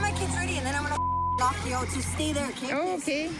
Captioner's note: beep